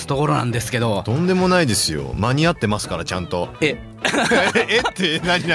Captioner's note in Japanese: 笑い